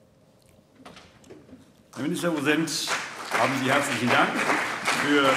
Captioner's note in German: Beifall CDU und BÜNDNIS 90/DIE GRÜNEN